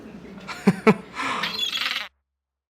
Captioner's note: laughing; bird squawking